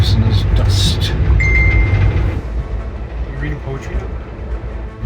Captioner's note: bell dinging